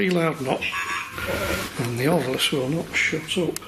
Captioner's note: deep beeping